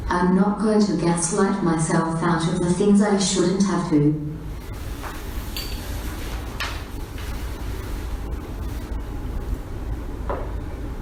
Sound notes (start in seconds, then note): none